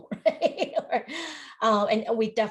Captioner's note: laughs